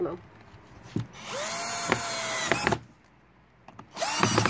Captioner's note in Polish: Odgłos wkrętarki